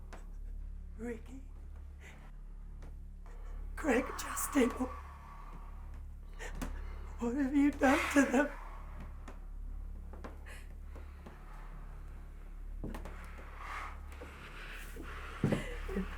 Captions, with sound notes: - Ricky, Greg, Justin, oh, what have you done to them? [group gasping]